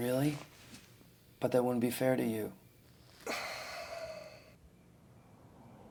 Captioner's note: sigh